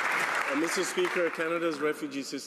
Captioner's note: some Applause